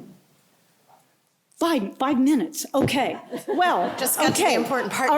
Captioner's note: laughter